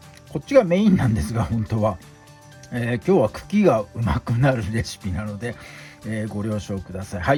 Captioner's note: laughs